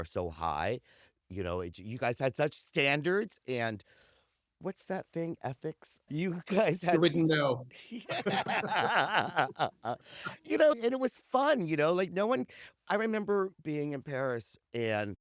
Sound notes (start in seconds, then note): 7.7 laughs